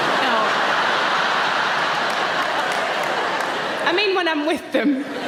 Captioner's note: audience laughing